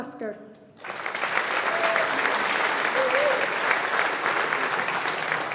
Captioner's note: audience applauding